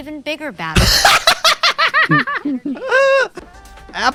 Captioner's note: laugh